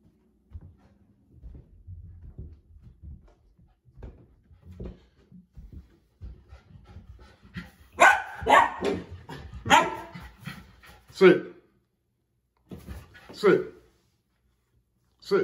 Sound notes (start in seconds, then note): 7.9 Berne barking